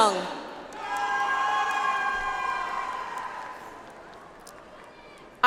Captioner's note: audience applauds